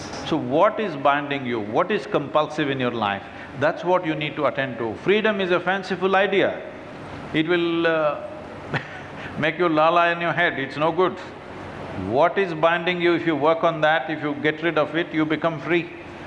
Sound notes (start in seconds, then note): 8.7 laughs